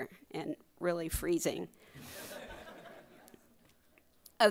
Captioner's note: crowd laughing